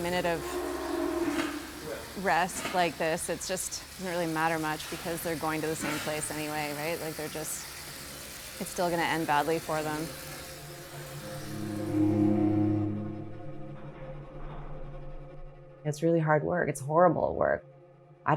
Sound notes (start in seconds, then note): 12.1 door scraping